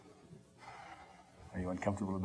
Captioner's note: exhaling